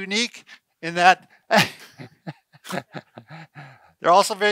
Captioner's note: laughter